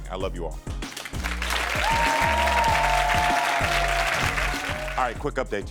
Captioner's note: audience applauds and cheers